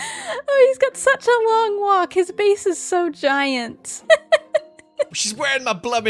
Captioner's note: laughs